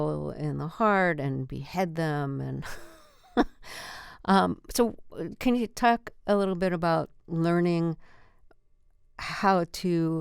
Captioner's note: laughter